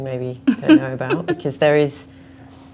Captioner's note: laughs